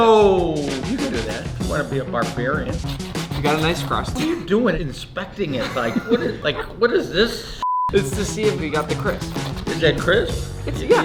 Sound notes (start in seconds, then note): 7.6 beep